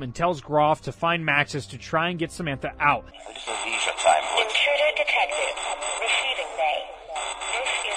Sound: alarm sounds “Intruder Detected - Receiving Bay”

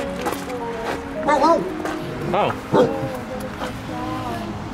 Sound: bark

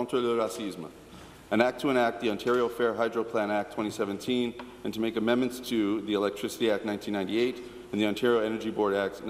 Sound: speaking in French

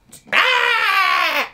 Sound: zombie moans

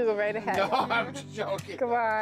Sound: laughs

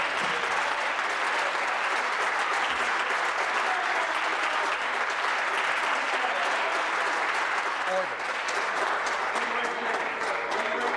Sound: applause

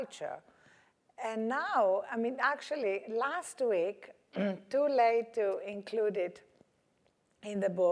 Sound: cough

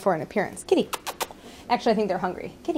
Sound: softly making kissing calls

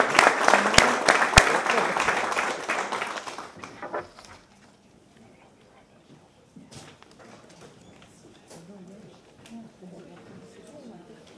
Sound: applause

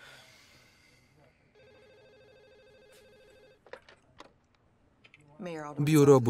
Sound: telephone ringing

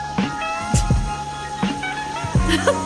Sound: giggles

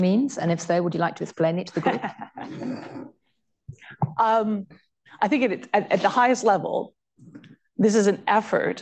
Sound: laughter

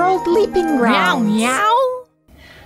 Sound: meowing

